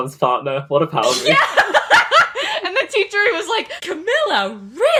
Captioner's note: laughing